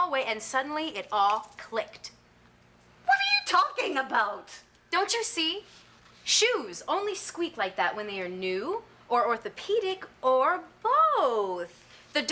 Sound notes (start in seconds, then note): none